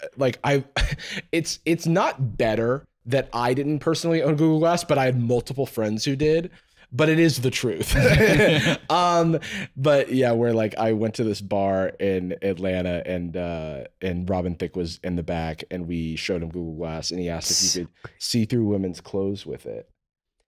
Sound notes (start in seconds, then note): 7.8 laughing